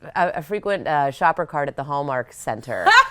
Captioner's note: laughs